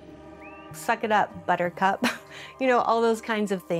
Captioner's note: laughs